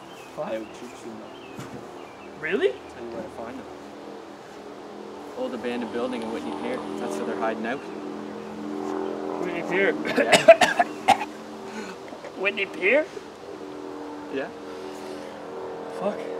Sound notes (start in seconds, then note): 10.0 coughs